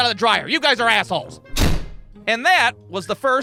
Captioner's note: thud!